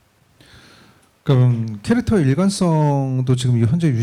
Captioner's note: speaking korean